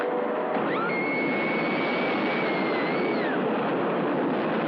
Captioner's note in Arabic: صراخ